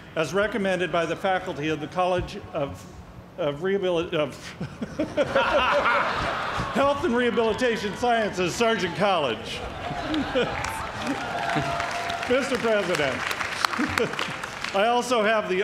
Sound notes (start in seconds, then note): 4.5 laughs; 9.6 laughter, cheers and applause